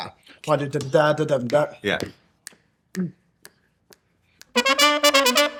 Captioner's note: mimicking horn line